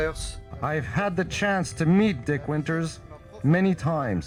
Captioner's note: speaking foreign